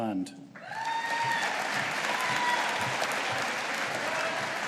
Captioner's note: audience applauding